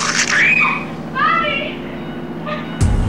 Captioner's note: Rachel screams